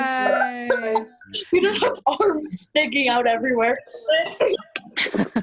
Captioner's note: cheers